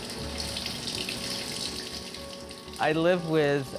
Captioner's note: water running